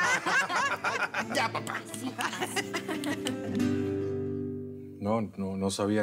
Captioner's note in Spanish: risas